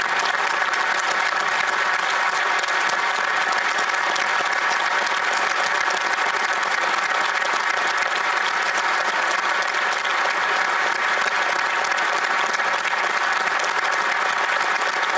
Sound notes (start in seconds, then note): 2.9 applause